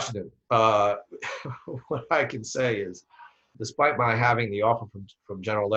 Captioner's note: laughs